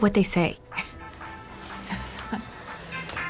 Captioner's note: dru scoffs; cell phone rings